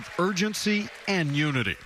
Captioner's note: cheering